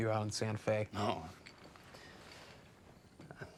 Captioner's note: laughs